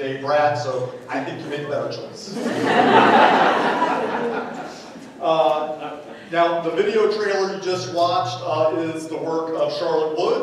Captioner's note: laughter